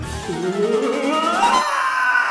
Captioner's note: whimpers; scream of agony